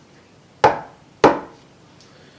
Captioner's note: knock knock